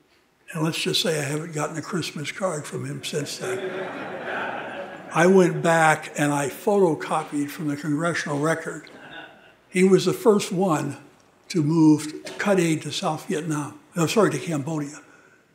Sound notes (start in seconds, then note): 2.7 audience laughing